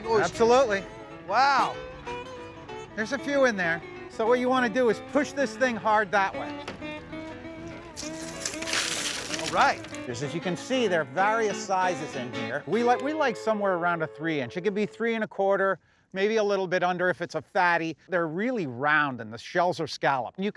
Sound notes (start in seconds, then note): 8.0 splashing sound